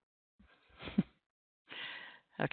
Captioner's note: chuckles